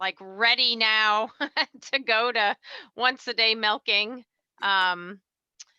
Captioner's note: laughs